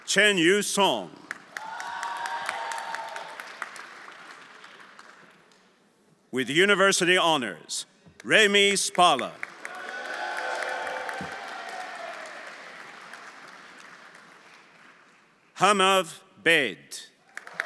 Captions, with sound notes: Chen Yu Song. (everyone applauding) (friends cheering) With university honors, Remi Spala. (everyone applauding) (audience cheering) Hamav Bed.